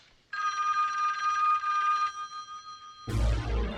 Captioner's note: phone rings